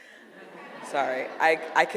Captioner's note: audience laughing